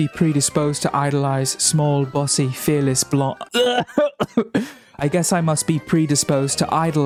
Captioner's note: coughs violently